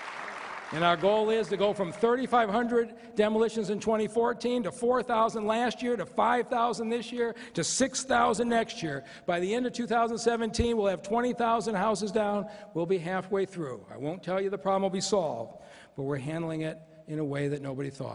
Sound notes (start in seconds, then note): 2.9 applause